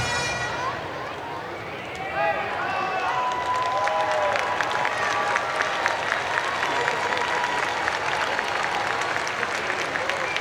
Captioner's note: cheers and Applause